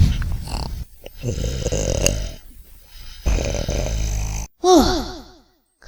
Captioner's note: grumbles; snoring